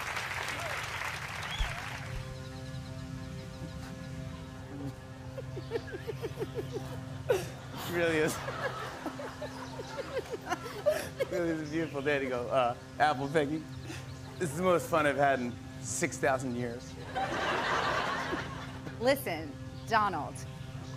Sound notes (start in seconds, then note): 0.0 cheers and applause; 0.3 soft, dramatic music plays; 4.6 laughs; 9.4 both laugh; 17.0 laughter